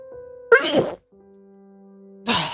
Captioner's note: sneeze